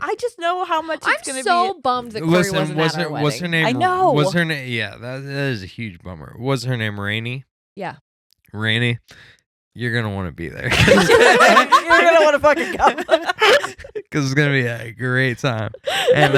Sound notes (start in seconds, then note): 10.6 laughing